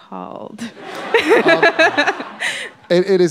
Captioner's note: laughter